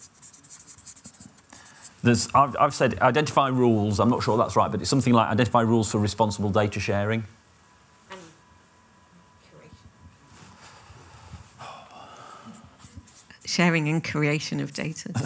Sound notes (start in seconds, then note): 7.7 background muttering; 11.5 sighs